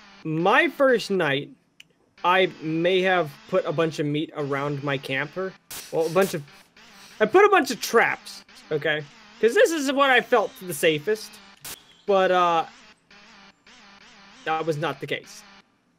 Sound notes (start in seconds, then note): 6.0 laughs